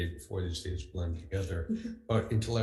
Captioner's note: laughs